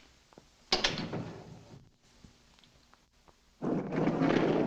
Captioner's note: door thuds shut